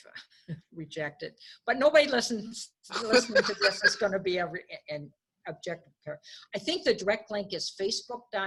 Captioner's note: lauging